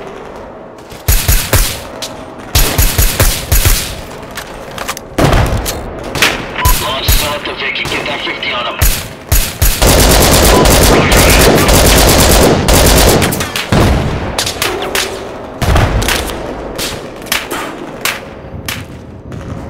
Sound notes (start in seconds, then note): 1.0 suppressed carbine fire; 5.9 suppressed Carbine fire; 8.3 suppressed Carbine fire; 9.2 LMG fire; 14.6 bullets Impacting & Ricocheting